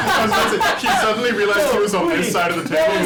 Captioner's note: laughter